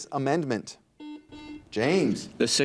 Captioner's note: buzzer dings